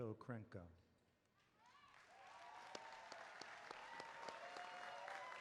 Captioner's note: applause